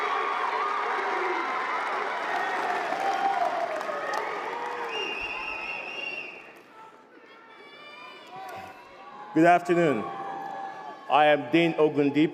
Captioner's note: cheers and applause